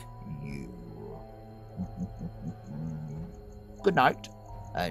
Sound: chuckles

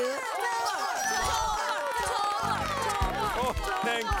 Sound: crowd chanting

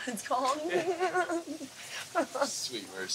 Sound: laughs

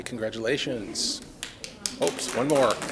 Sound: audience applauds

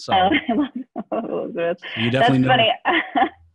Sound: chuckles

